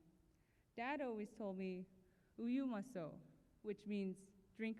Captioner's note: non-english speech